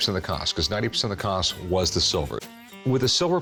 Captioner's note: none